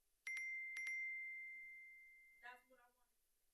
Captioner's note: bell dinging